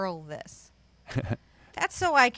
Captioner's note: chuckles